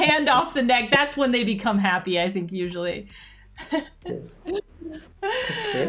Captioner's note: laughs